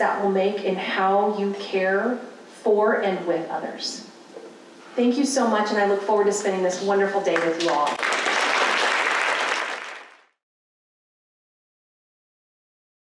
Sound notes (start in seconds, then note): 7.3 applause